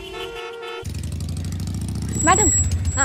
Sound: bike revving

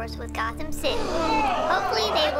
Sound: crowd gasps

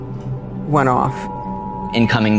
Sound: alert tone

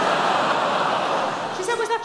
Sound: audience laughs

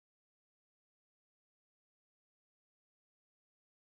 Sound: talking on radio

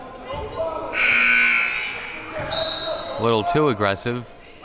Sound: siren buzzing

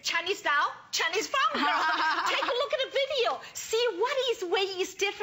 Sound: laughter

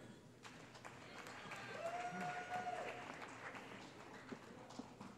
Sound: cheering

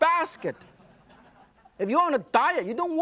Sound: audience laughs

